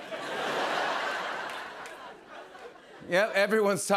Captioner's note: laughter